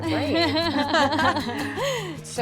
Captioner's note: laughter